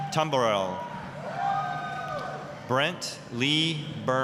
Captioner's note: applause, cheering